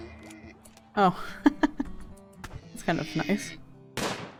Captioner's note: laughs as bullet hits shield belt